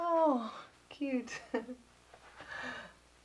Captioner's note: chuckles